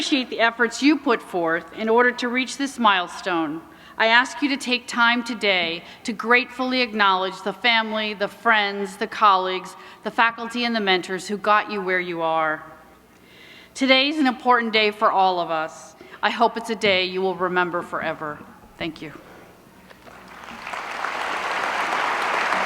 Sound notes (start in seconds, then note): 13.9 applause